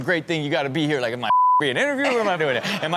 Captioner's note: beep